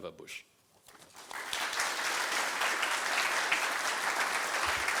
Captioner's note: applause